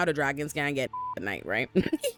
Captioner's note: beep